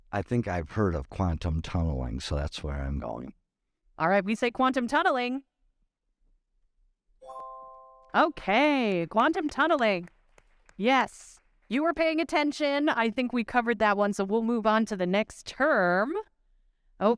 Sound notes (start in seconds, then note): 7.2 bright chime; 9.1 audience clapping